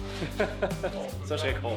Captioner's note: laughing